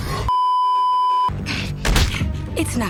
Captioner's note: beeeeeeeeeeeep; snarles; slam